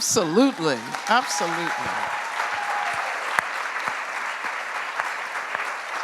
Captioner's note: cheering and applause